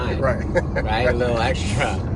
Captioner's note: laughs